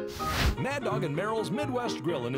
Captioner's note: flame hissing